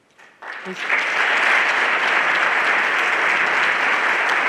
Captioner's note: everyone applauding